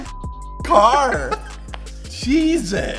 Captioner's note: laughs